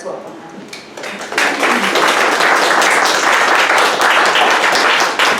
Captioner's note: audience applauds